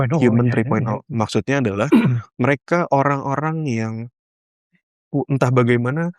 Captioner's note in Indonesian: berdehem